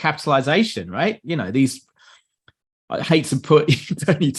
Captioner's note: laughs